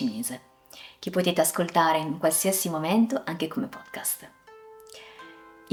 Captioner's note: sorry, just in Italian